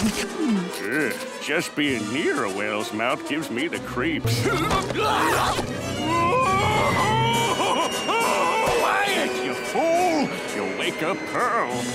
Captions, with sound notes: Eeh. Just being near a whale's mouth gives me the creeps. [shrieking] [screaming] Quiet, you fool. You'll wake up Pearl.